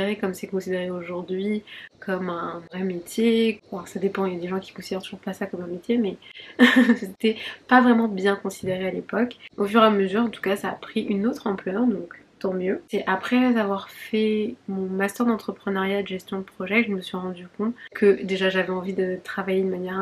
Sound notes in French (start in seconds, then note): 6.5 rires